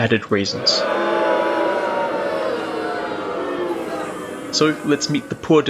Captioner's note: booing